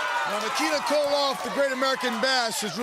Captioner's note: crowd cheering